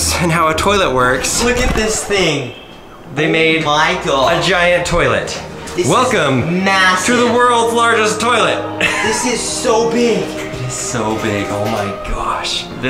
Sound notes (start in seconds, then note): 8.7 laughs